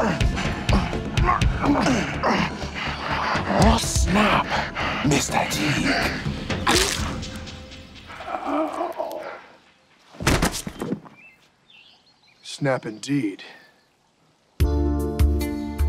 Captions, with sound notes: NO! - OH, SNAP, MR. TEAGUE. [body thuds] - SNAP INDEED.